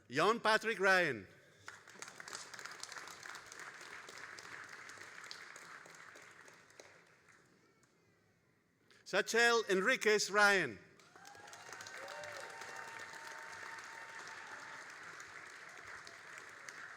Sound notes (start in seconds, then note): 1.6 all applauding; 10.9 all applauding and cheering